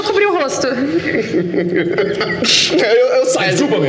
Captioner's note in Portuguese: risos